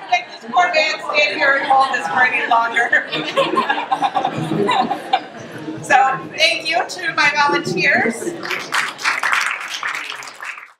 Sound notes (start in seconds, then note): 1.4 laughter; 8.4 clapping